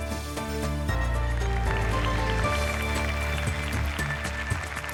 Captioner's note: applause